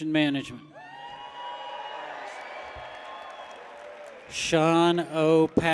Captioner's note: people cheer